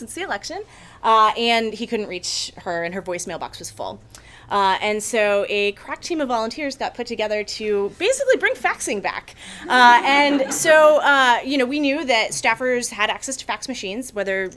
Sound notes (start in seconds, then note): 9.6 attendees laugh